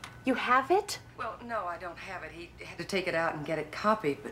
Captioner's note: on phone